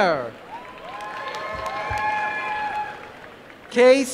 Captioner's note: applause